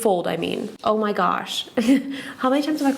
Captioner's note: chuckles